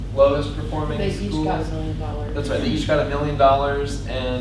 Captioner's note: voiceover